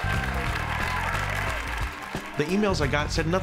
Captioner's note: crowd cheering and clapping